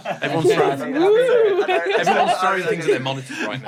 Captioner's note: ghost noises?